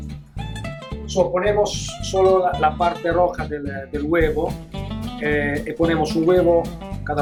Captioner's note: speaking spanish